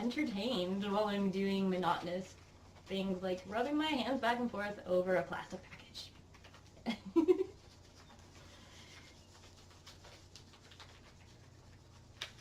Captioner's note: giggles